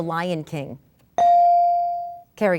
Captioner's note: ding